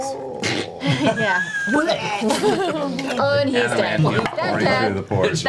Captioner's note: vomit noise